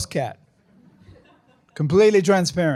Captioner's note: laughter